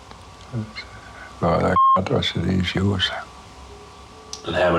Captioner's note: beep